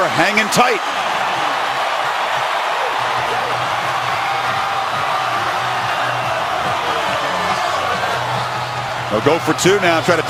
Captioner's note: crowd cheering